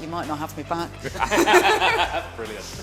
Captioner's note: laughter